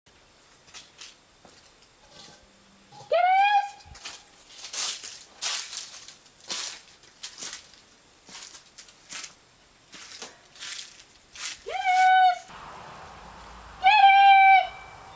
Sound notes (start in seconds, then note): 5.4 sound of walking on dry leaves